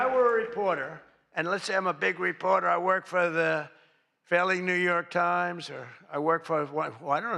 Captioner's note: applause